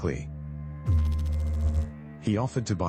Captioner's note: electrical noise